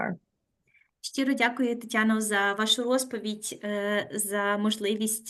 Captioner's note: speaking Ukrainian